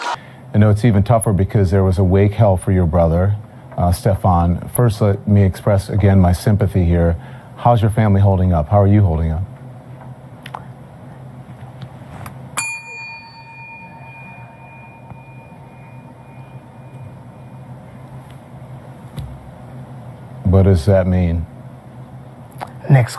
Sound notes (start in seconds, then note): 15.6 dings bell